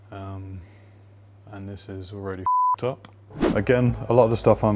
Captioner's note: beep